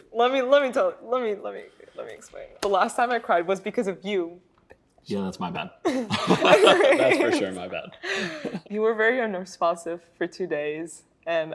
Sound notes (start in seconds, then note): 4.4 whispers; 5.8 both laughing